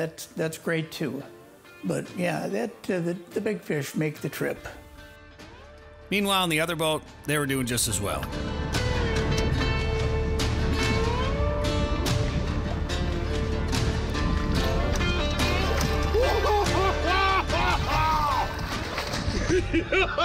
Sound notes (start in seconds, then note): 8.8 upbeat music; 16.1 cheering